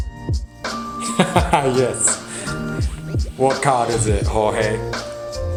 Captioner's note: upbeat music; laughs